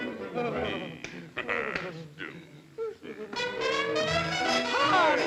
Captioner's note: whimpering; Sinbad grumbling; upbeat music